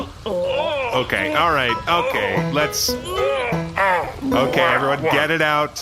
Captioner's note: screaming and vomiting